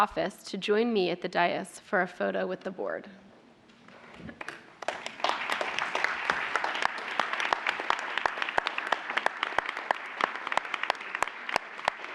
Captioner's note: applause